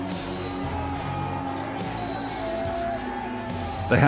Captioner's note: yells